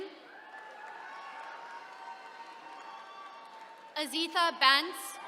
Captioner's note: attendees cheering